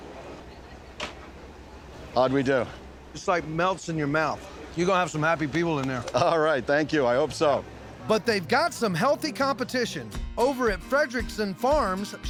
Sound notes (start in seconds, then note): none